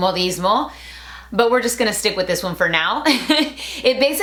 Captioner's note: laughing